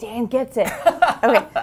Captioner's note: laugh